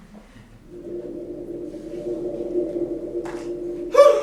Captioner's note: spooky noise